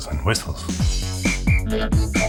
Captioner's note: upbeat robotic music; dog whistle blowing